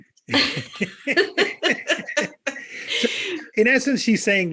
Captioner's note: laughter